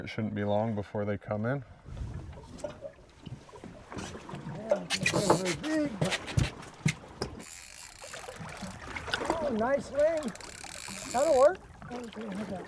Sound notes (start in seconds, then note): 3.9 water gurgling; 7.3 reel spinning